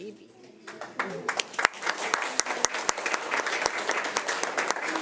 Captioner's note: crowd clapping